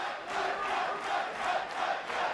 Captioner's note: fans chanting